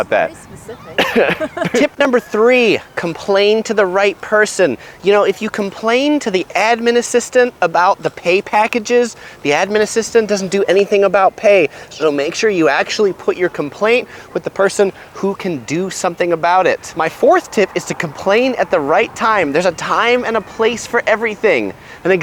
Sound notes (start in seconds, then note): 0.9 both laughing